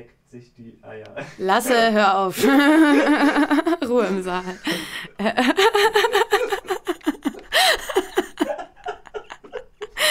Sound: laughter

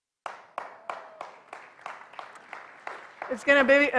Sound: applause

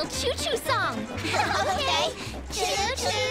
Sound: laugh

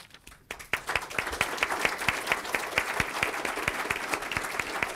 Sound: audience applauds

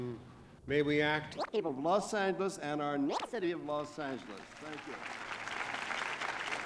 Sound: camera noise; applause

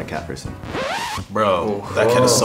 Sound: record scratching

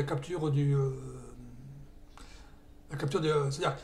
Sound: confused noises

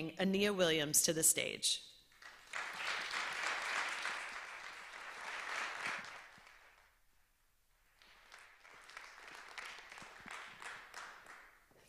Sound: applause

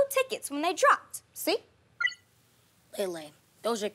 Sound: phone beeps

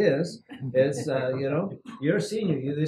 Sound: laugh

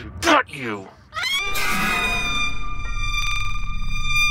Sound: screaming

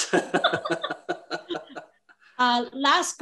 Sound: laugh

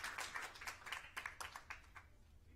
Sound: applause

